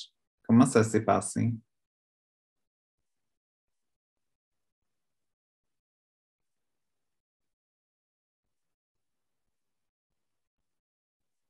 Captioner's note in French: pause 01:01:33